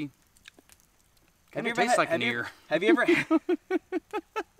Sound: laughing

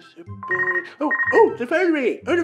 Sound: phone rings

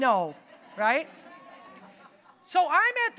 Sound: audience laughing

